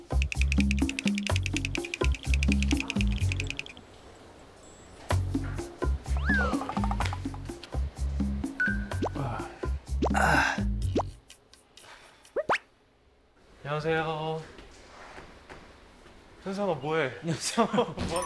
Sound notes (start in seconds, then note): 6.0 yawns